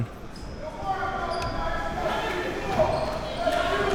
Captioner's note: man shouting